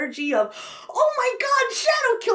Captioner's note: gasps